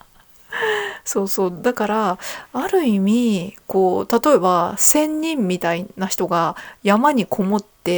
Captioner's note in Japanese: 息をのむ音